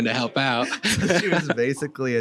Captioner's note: laughs